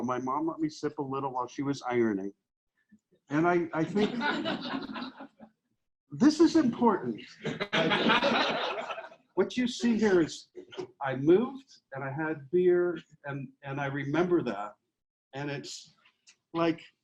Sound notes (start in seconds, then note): 3.7 audience laughs; 7.3 audience laughs